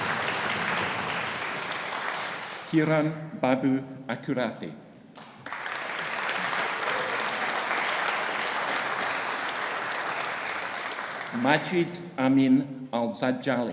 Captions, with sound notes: Kiran Babu Akurathi. (AUDIENCE APPLAUDING) Majid Amin Al-Zadjali.